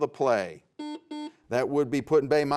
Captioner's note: buzzer sounds